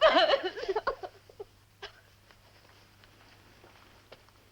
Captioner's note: heavy sobbing